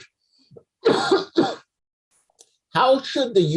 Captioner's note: coughs